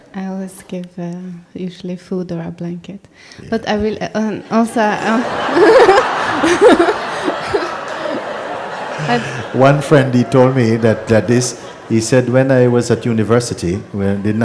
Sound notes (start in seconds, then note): 5.4 questioner laughs; 6.9 laughter